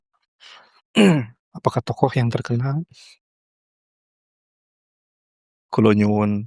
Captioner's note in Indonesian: berdehem